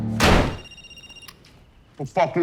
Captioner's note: door slamming; telephone ringing